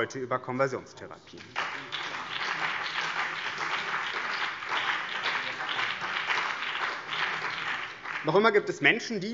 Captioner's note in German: Beifall BÜNDNIS 90/DIE GRÜNEN und vereinzelt CDU